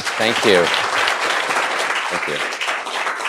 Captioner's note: applause